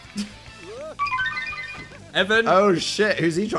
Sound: twinkling sound plays

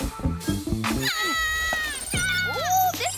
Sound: screams

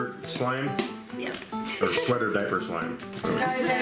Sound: laughs

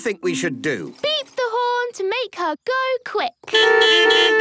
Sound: beeping

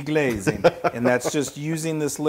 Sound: laugh

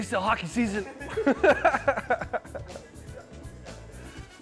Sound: laughing

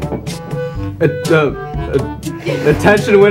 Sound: stammering

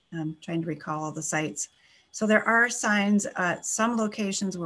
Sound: none

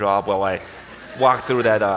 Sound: audience laughs

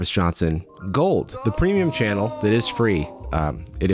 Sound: disembodied voice

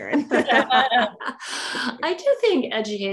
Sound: laughter

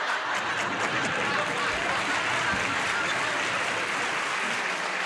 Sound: laughter and applause

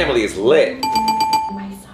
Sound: bell dinging

